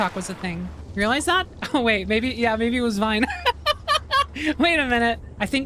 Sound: laughter

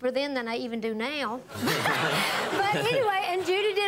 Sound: audience laughing

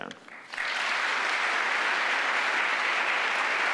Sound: applauding

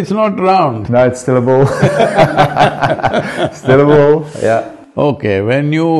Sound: both laugh

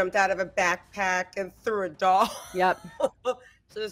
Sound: laughs

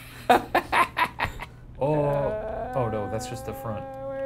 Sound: laughs

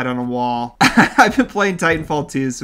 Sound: laughs

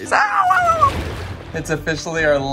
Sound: water sploshing

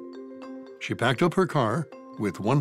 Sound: voiceover

